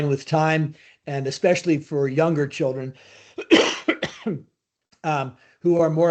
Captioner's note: coughs